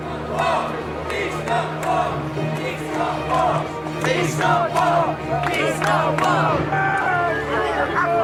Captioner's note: crowd chants